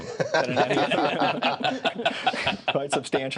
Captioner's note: laughing